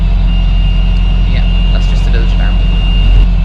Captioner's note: alarm sound